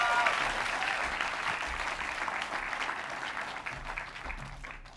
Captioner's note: applause and cheers